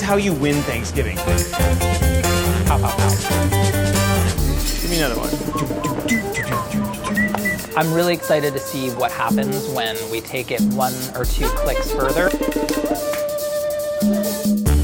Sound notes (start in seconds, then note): 5.2 whistles; 5.8 mimics drums